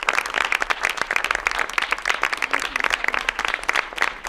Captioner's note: applause